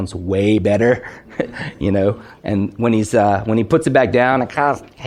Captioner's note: laughs